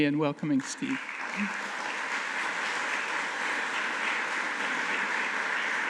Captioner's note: audience applauding